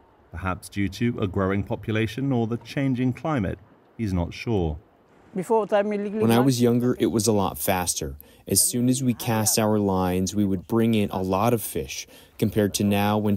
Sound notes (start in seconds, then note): 5.8 through translator